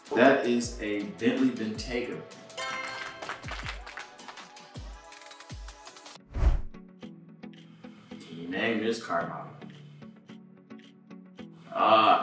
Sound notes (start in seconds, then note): 2.6 applause sound effect plays